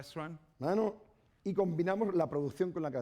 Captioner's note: speaking spanish